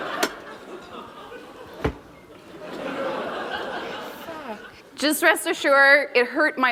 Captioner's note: laughter